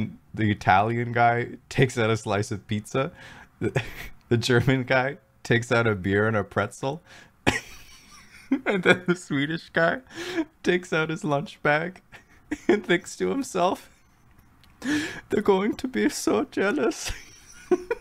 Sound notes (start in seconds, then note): 7.5 laugh